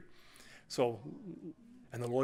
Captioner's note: audience ohhs